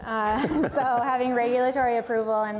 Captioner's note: panel laughs